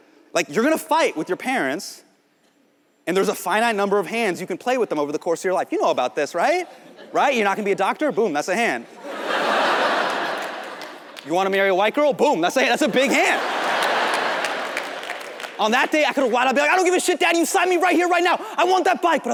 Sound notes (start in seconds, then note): 8.9 audience laughs